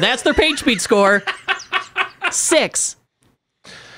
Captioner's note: laughs